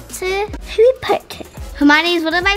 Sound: in British accent

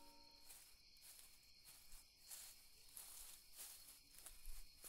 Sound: none

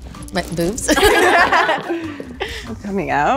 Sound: all giggling

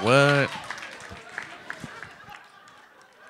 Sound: applause; laughter

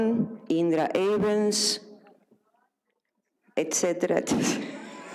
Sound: audience laughs; laughs

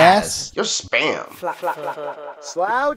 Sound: echo

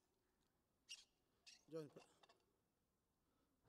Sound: water bottle lid squeaking

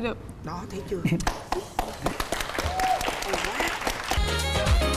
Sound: applause

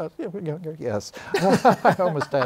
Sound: laughter

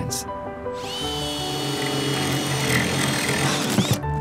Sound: drill whirring

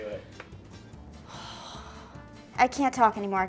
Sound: sighs

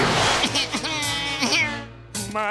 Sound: crying

